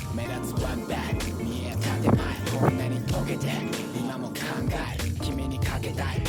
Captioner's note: speedy screwing